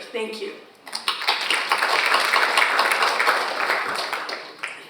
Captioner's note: audience applauds